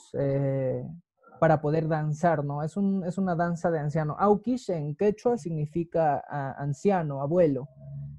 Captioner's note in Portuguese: habla quechua